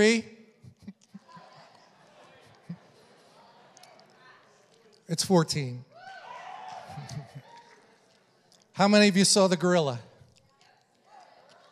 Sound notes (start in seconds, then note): 0.5 congregation laughs; 5.9 congregation cheers